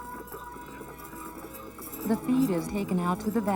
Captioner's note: clopping